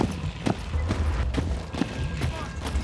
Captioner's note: feet marching